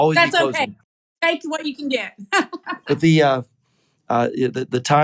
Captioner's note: laugh